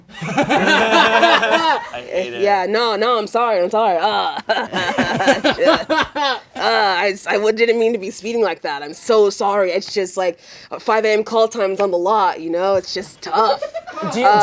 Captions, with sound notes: (all laughing) Yeah. No, no. I'm sorry. I'm sorry. (imitates manly chuckle) I didn't mean to be speeding like that. I'm so sorry. It's just like, 5AM call times on the lot. You know, it's just tough.